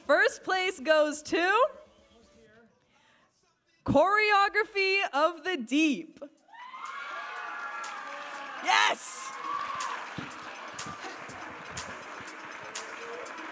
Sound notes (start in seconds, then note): 6.6 audience applauding and cheering